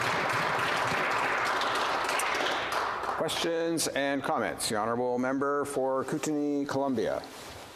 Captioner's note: some Applause